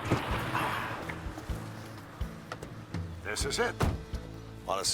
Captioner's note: Bill sighs